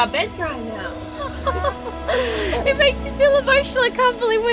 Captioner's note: chuckles